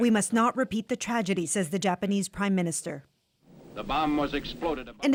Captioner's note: speaking alternate language